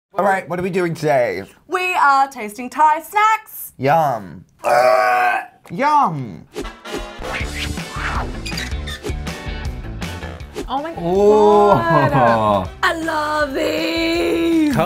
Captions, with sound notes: - All right, what are we doing today? - We are tasting Thai snacks. - Yum. (gagging) Yum. (funky music) - Oh my god. - I love these.